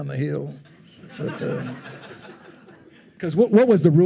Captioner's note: attendees laughing